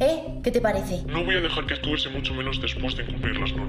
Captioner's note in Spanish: voz distorsionada